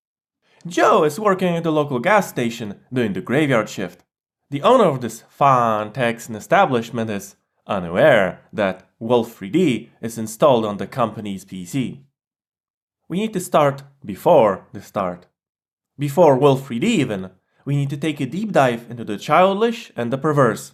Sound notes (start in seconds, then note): 5.9 imitating Texan accent